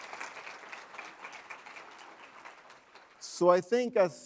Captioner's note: applause